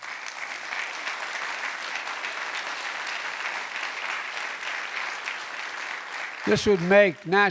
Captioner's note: applause